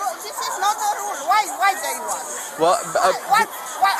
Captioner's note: stuttering